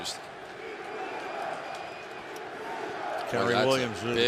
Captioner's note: crowd chanting